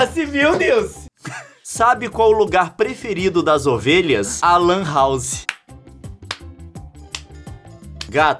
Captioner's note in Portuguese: palmas